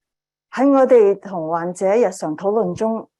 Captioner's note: speaking chinese